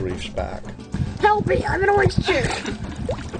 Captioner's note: voiceover; laughing